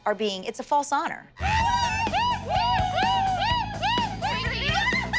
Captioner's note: cheering